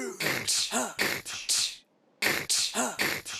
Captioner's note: beatboxing